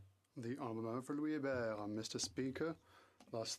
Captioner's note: speaking French